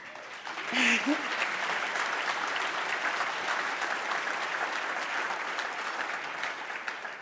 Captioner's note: applause